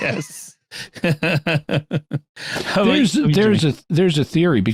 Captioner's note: laughter